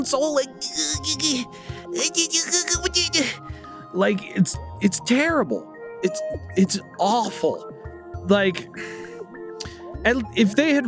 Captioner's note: feeble nerd struggle noises